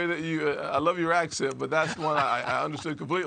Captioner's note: laughter